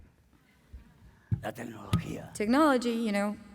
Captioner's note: speaking spanish